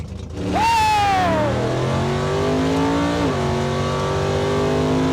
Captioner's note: engine roaring